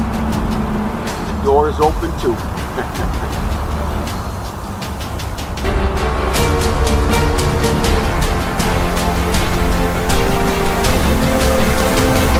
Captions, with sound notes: The door is open too. (Stealth laughs)